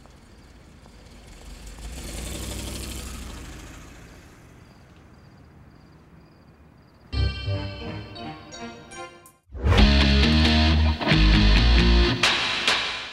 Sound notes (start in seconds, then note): 2.0 car driving off; 9.9 techno outro music